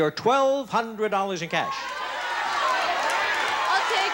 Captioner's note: audience shouting